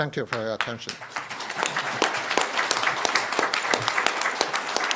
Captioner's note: applause